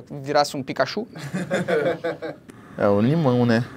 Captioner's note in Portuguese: risadas